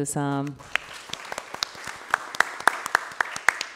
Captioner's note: applause